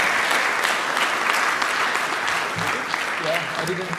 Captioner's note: clapping